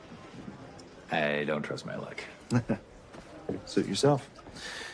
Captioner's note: chuckles